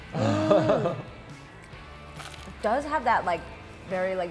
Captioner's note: lightly crunching